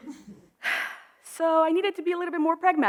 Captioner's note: audience chuckles; sighs